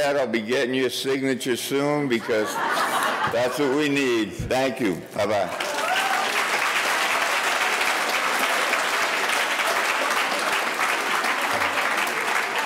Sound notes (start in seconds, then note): 2.1 audience laughing; 5.2 audience applauding